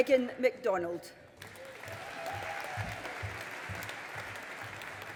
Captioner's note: audience applauding